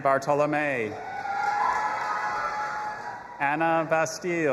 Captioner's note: audience applauding and cheering